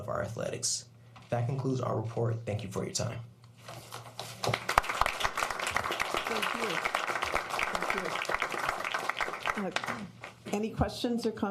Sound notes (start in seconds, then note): 4.4 applause